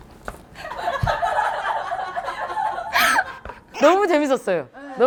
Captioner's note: tee-hee